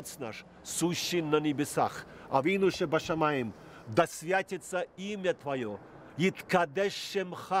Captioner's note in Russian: говорит на иврите